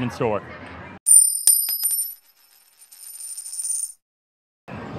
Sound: coin clinking

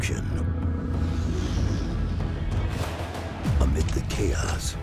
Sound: alien growling

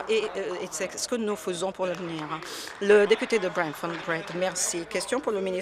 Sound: applause

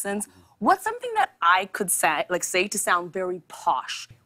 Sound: none

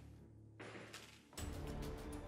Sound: banging; dramatic music

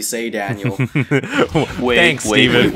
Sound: chuckling

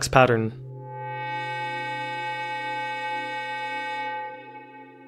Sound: computer Generated Sound

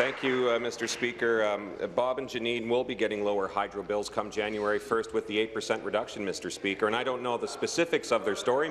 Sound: applause

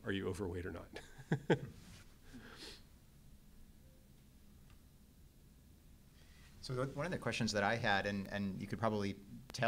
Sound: laugh

